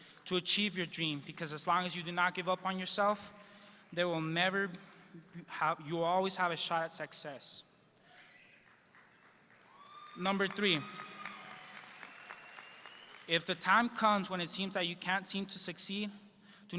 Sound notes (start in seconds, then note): 9.6 audience cheers